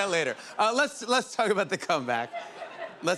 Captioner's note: laughter